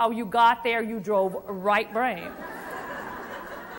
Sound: crowd Laughs

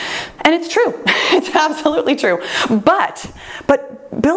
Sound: laughs

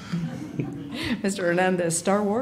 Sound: laughter

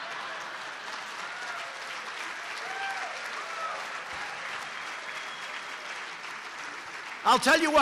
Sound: laughter and applause

